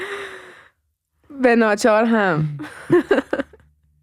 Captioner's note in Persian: خنده